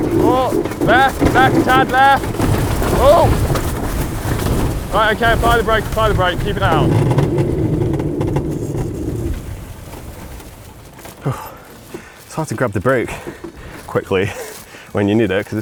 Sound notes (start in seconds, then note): 11.2 sighs